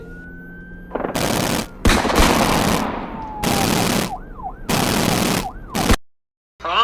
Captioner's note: bang bang bang booom